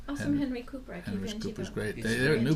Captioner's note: voiceover